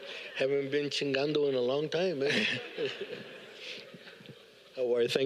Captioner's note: all laugh